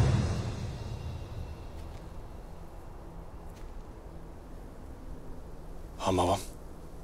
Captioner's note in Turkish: Rüzgar sesi